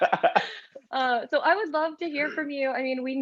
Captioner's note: laugh